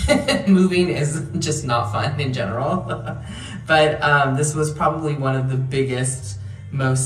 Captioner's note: laughing